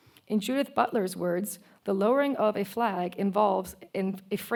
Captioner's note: none